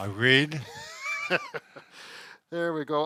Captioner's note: laughs